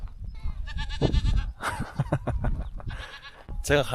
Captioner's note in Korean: 양 울음소리 너무 귀여움